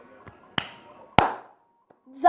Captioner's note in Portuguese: clip clap